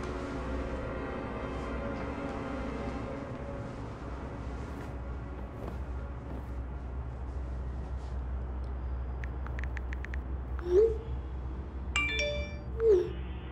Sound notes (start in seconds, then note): 9.4 texting; 12.0 text alert